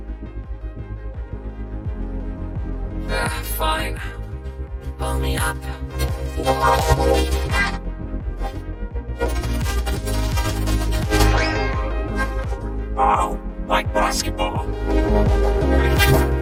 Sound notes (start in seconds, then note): 6.3 rubbery squeaking